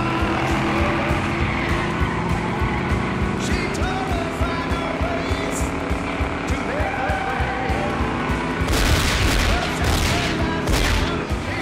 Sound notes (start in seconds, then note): 8.6 gunshots